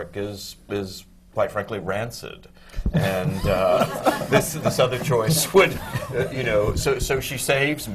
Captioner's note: laughter